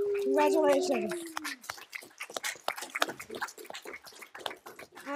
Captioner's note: audience clapping